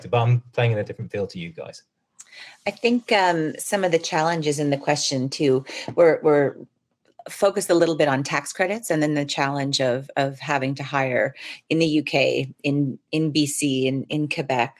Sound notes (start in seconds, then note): none